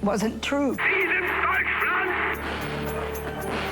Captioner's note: shouting in german